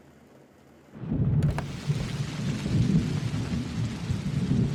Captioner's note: thunder rumbling